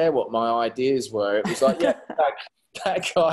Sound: laughing

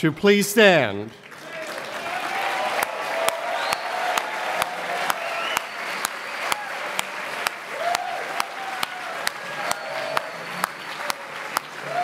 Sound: applause

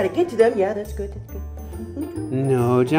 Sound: mutters

